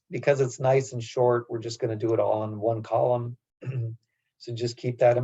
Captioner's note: cough